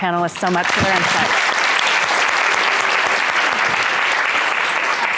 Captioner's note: audience claps